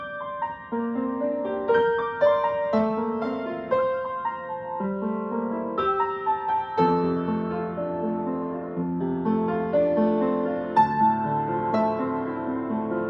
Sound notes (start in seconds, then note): none